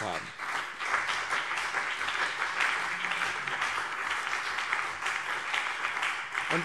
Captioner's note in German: Beifall BÜNDNIS 90/DIE GRÜNEN und CDU